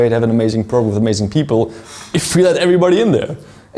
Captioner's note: none